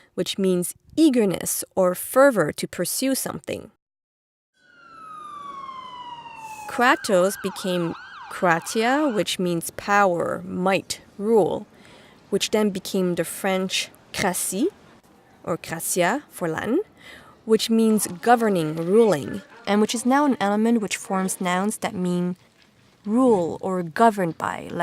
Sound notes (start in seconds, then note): 4.6 sirens blaring